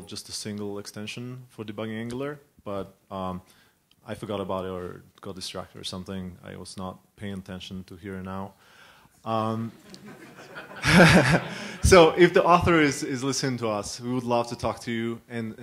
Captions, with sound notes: just a single extension for debugging Angular. But I forgot about it or got distracted or something. I was not paying attention to here now. [LAUGHING] So if the author is listening to us, would love to talk to you